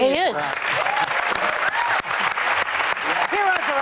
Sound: audience applauding

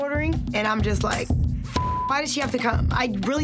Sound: beep

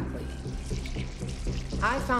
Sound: squelching

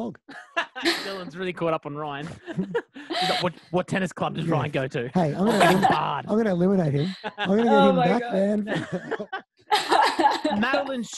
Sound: laughing

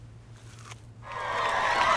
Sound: crunch

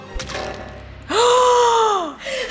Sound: squelching; gasping

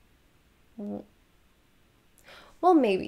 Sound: mumbles

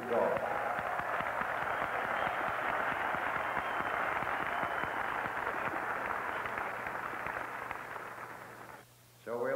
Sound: applause

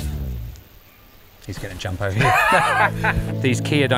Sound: laughs

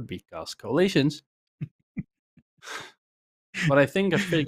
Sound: laughs

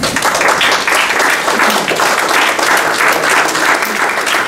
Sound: applauding

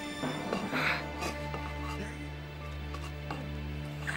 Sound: grunting

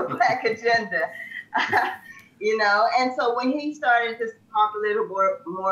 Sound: laughs

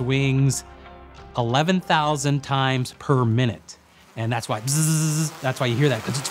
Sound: buzzes

